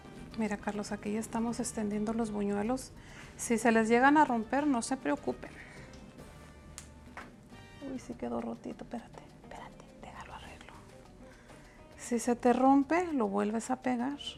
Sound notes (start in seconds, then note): 9.9 whispers